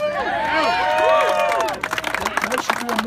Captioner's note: applause and cheers